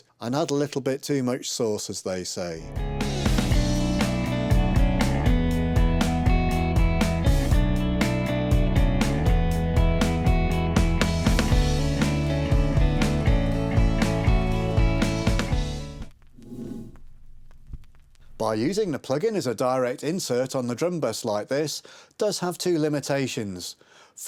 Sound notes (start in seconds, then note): 16.4 text whooshes